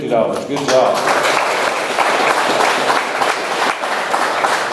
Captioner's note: audience applauds